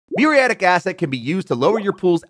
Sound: graphics popping

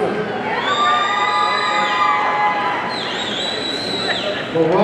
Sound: audience cheering

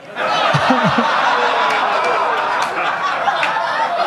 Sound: audience laughing

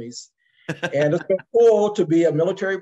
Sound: laugh

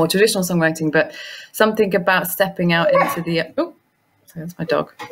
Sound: dog barks

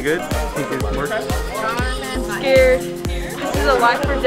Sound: crowd talking

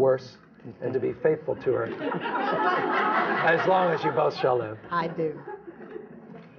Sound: laughter

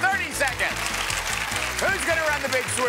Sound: applause

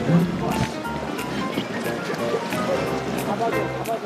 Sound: splash

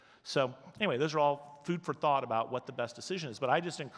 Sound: none

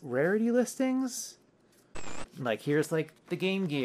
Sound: static

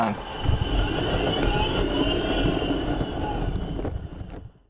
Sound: air whooshing

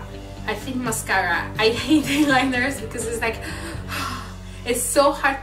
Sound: deep breath

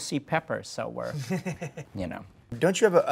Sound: laughing

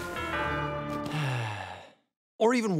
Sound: dismal music; sighs

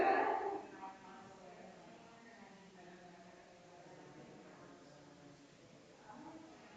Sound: people chattering distantly continues

